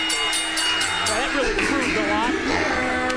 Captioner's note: bell ringing